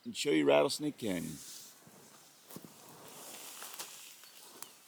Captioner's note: crunching underfoot